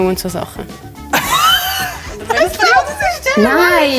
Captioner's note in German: Lachen